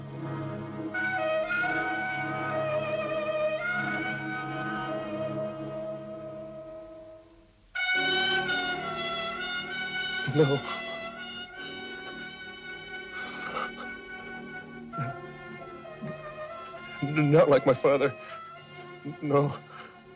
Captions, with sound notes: (ominous jazz music) - No. (Christian whimpering) Not like my father. No.